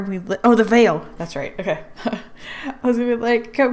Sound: laughs

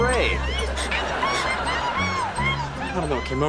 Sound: squeaking

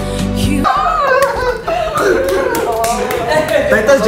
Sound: inaudible sounds of kilig

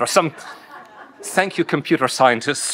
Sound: audience laughing

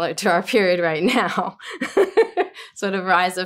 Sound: laughs

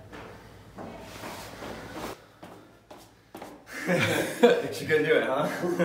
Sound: footsteps tapping; laughs

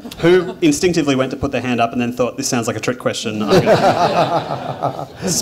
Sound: laughter

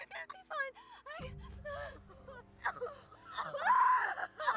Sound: Jocelyn cries

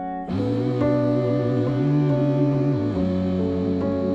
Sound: people humming

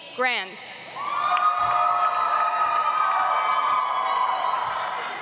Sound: audience applauds

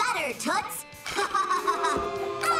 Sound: laughing

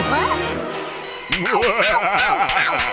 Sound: evil laughter

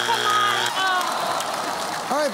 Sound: groaning

